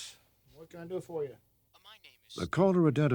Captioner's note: on telephone